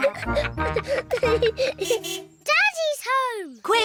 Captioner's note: all laughing; car horn toots